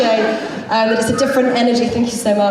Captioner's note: audience member whistles